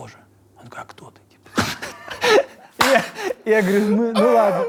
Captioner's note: both laugh, claps